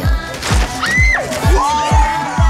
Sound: girl screaming

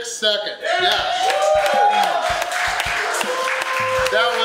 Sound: crowd clapping and cheering

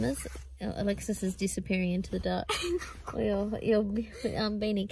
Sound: giggles

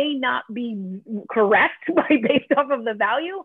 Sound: laughter

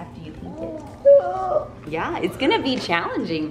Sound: gasps

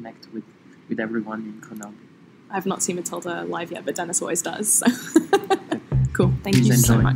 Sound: laughs

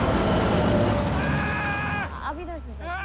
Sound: screaming

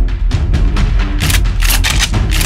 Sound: guns cocking

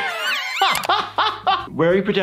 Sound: laughs; more girl screams

